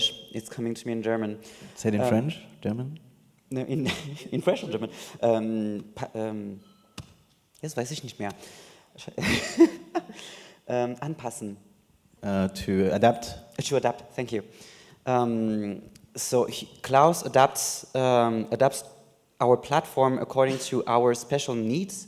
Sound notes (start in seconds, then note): 5.4 in German; 8.5 laughs